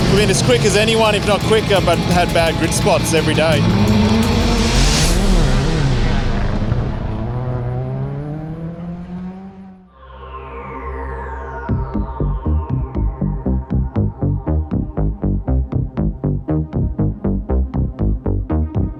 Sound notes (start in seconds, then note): 4.2 engines rev; 10.2 intense theme music